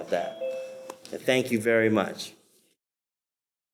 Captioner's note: bell rings